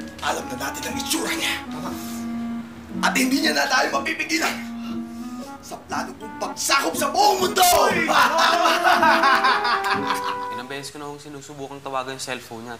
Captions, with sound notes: -And we know what he looks like. -Right. -And he cannot stop us... -Ah! ...in my plan to take over the whole world! [sinister laughter] I’ve called his cellphone countless times.